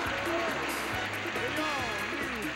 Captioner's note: audience applauding